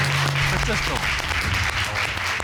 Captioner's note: audience applauding